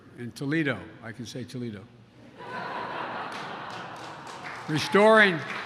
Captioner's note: laughter and applause